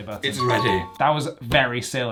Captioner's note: bell chimes